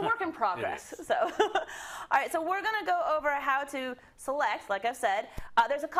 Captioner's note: laugh